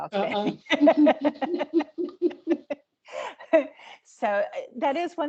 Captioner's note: laughing